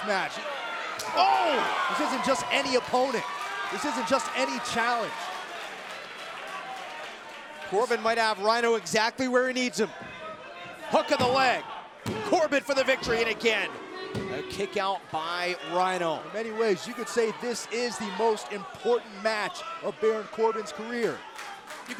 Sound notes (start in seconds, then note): 6.0 crowd cheering